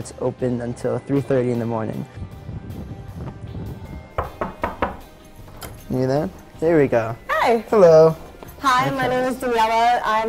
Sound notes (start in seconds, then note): 4.1 knocking